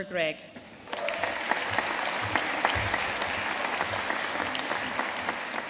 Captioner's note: audience cheering and applauding